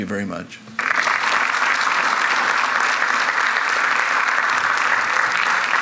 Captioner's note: audience applauds